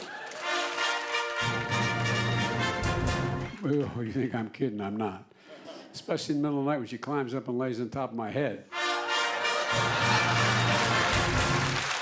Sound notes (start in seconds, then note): 5.3 laughter; 11.7 laughter and applause